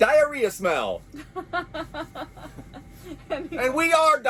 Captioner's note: laughing